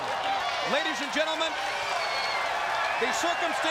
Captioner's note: crowd cheering